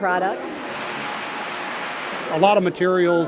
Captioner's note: recycling plant sounds